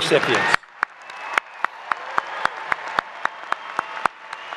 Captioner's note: applause